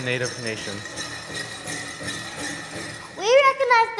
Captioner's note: native jingling